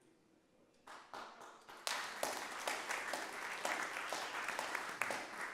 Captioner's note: group applauds